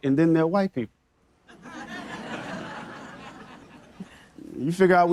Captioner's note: audience members laughing